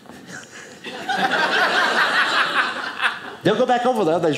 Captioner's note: audience laughing